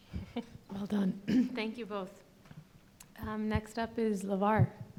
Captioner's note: clears throat